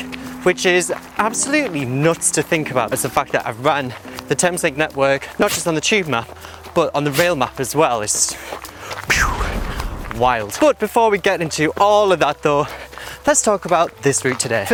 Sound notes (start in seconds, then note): 9.1 boom